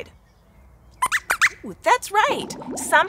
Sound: squeaks squeaks

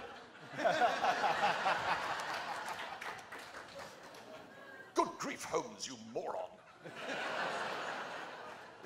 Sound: laughter

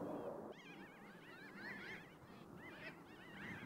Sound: birds chirping

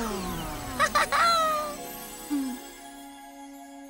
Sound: chuckles

